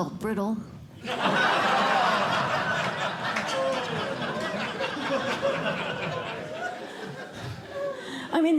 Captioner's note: laughter